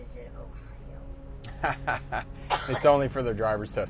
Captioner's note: laughs